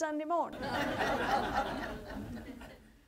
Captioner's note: audience laughter